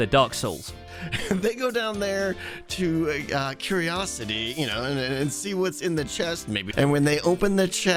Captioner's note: laughs